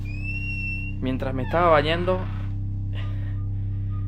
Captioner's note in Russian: свист